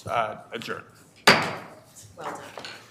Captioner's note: gavel pounding